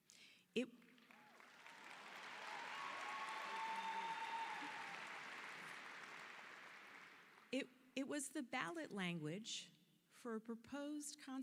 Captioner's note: applause